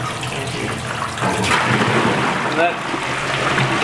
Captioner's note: water draining